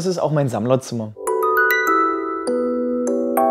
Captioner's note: chimes